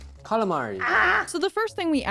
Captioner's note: feral noise